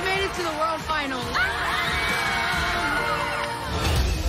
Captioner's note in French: cheering